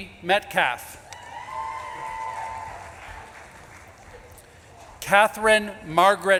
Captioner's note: audience claps and cheers